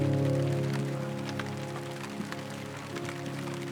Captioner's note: sound of rain & music